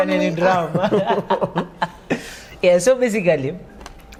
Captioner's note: laughter